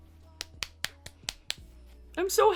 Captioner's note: claps